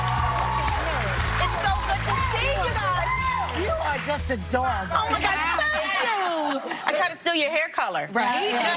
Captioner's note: applause